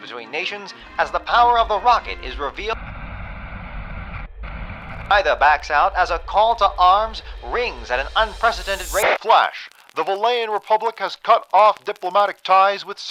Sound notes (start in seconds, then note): 2.1 static